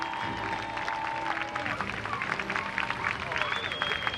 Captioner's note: crowd cheering